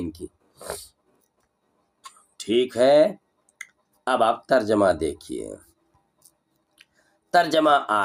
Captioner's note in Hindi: नाक से की जाने वाली आवाज़